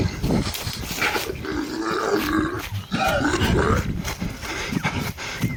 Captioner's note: growl snarl growl